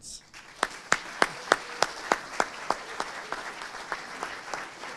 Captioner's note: audience applauding